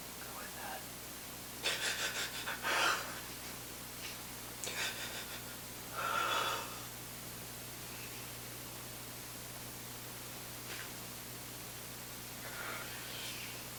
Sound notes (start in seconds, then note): 1.6 sobbing